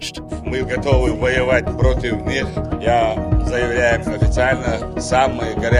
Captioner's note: Ramzan speaking in foreign language